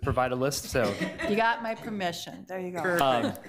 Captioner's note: committee members laugh